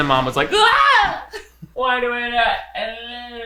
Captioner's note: screaming